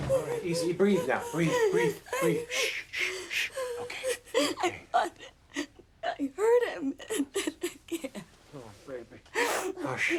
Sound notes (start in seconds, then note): 3.9 sobs